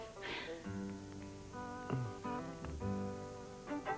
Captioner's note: moans softly